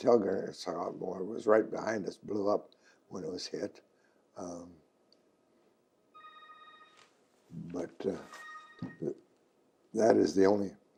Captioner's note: telephone ringing